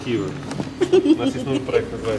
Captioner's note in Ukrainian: сміх